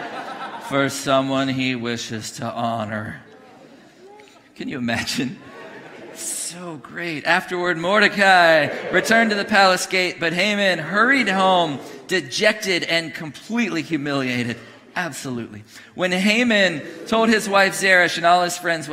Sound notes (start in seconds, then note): 5.1 congregation laughing; 7.6 congregation cheering; 10.4 congregation booing; 16.0 congregation booing